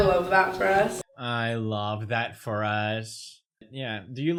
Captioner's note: mimicking Tana